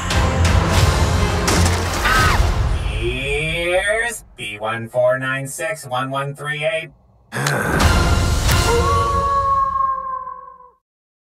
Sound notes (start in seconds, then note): 2.0 screams; 7.3 groans; 8.6 howl